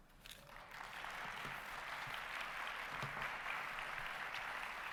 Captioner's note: audience applauding